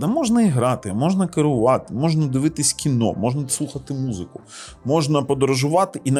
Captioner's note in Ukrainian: сопіння